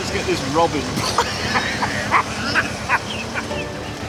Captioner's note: they laugh